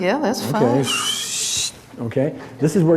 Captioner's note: whistles